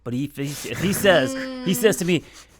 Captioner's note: laughs